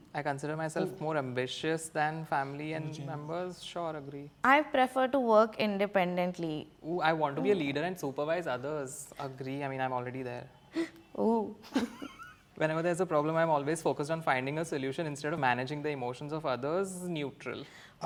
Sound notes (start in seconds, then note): 11.7 chuckles